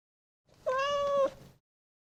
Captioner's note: cat meowing